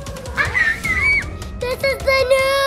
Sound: screaming

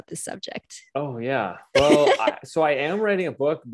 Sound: laughs

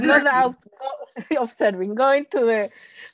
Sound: laughs

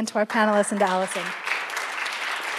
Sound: applause

